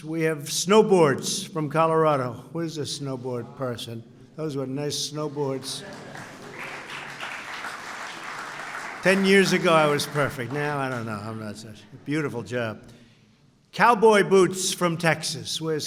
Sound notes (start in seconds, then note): 5.5 applause